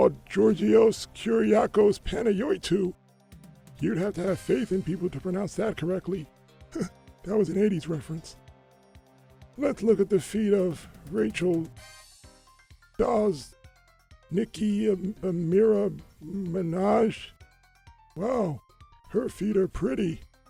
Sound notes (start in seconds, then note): 6.7 laughs